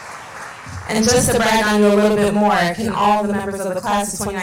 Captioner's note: applause